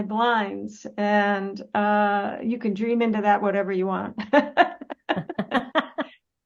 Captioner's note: Rires